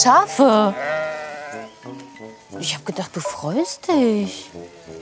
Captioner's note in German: Blöken